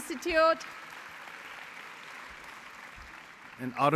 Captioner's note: applause